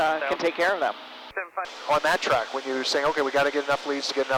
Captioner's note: radio traffic